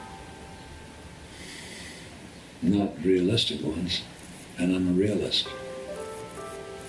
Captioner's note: gentle pensive music; sighs